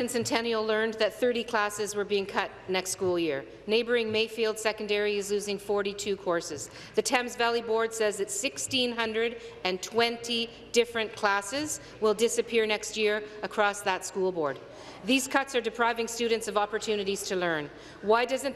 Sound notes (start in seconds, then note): none